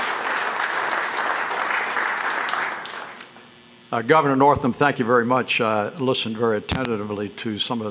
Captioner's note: applause